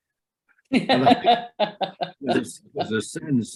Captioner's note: laughs